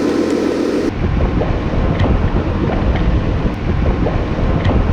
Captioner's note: trommel motor running